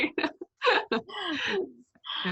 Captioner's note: laughs